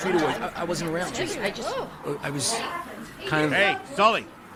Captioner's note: crowd murmuring